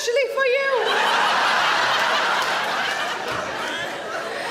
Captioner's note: audience laughing